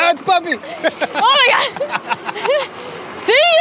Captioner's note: giggling